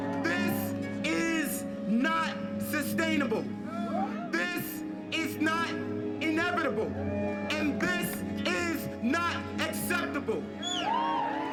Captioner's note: cheering; cheering